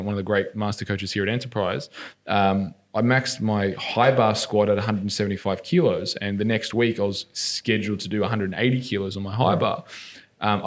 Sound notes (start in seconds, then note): none